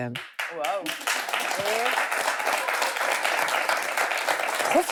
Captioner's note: applause